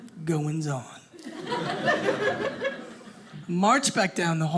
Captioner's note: audience laughing